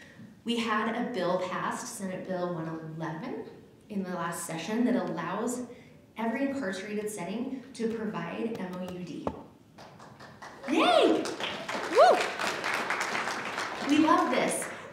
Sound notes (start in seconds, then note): 9.8 applause